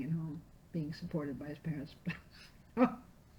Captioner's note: laughing